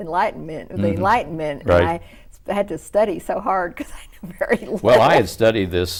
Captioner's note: laughs